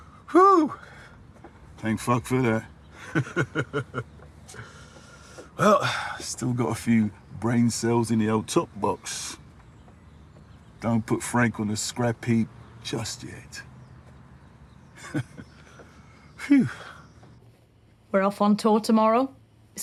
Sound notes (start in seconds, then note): 2.9 he chuckles; 14.9 he chuckles